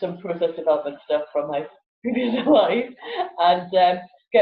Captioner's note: laughs